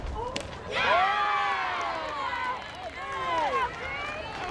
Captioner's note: crowd cheers